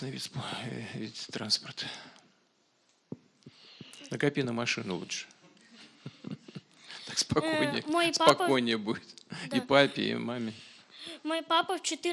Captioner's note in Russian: Смех